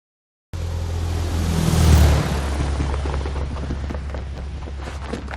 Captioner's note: plane engine revving